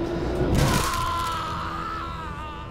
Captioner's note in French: cri lointain